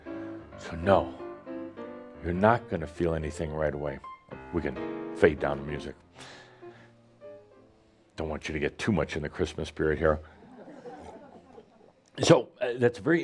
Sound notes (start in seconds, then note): 10.6 some chuckles